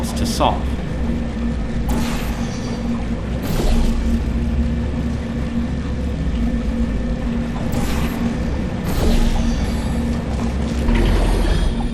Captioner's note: gameplay sounds